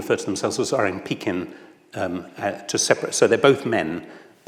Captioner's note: speaks in foreign language